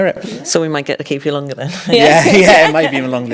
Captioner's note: all laughing